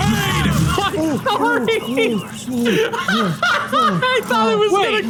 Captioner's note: sniper shot as finally kills the scout; through cackling laughter